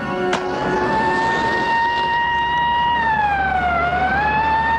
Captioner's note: siren blaring